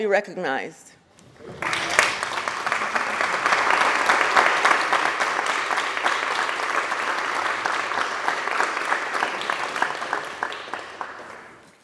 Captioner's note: applause